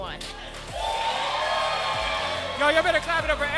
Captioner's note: crowd cheering